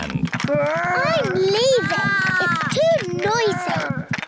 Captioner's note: both roar